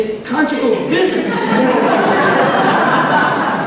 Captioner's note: laughter